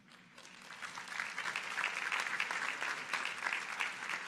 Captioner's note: audience applauding